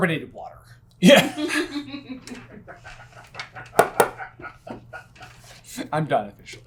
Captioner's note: team laughter